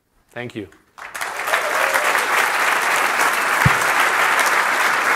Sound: applause

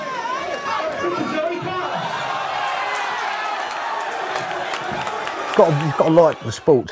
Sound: crowd cheering

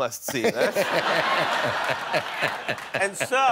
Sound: laughter

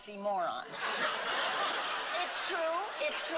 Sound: laughter

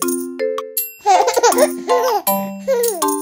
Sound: piano playing; giggles

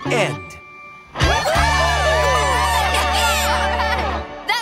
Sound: all cheering

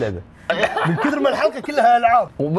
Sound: laughs

